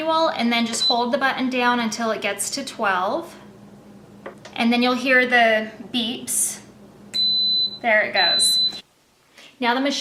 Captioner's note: beep, beep